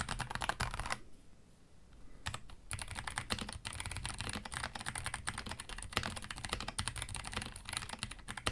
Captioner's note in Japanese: タイプ音; タイプ音